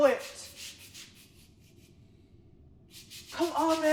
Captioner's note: sound of brushing on the floor